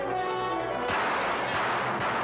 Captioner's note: gunfire; glass breaking; dramatic music